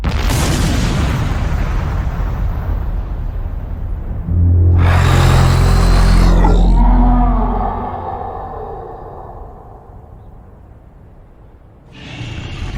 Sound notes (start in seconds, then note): 0.1 explosion booming; 4.2 creature roaring